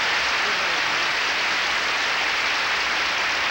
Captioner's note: applause